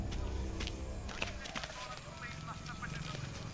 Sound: P.A announcement

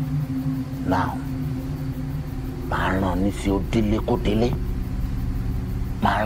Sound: speaking in foreign language

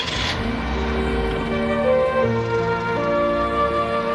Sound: engine revving

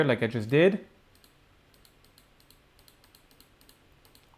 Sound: clicking

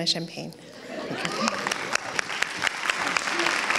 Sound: applauds

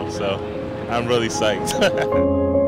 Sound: laughs

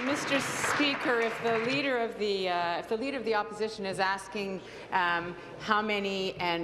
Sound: applause

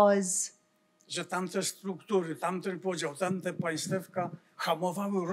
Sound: foreign language

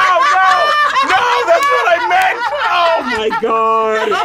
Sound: laughs

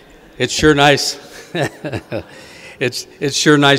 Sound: audience laughing; giggles

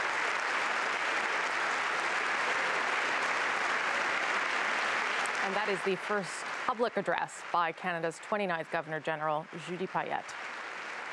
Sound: applause

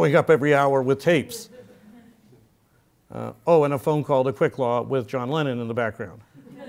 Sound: laugh; laugh

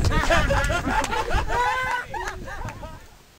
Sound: laughter

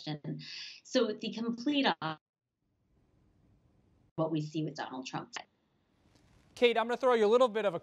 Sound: audio break

